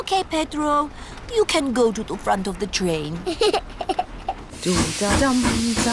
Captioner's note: giggles